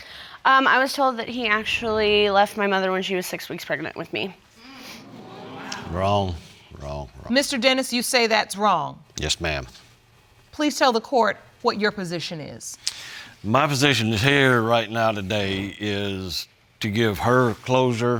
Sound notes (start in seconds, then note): 2.9 audience murmuring